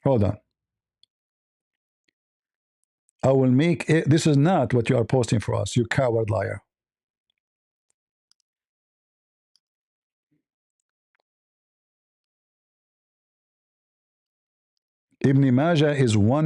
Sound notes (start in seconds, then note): none